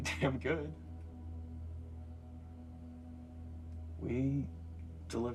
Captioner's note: tense music; crickets chirping